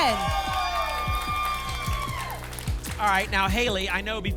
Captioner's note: applause and cheering